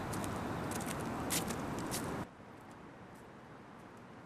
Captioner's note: rustling